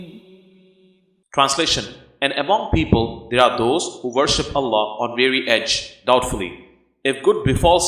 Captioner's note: doubtfully